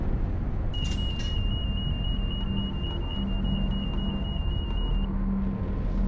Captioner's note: alarm sounding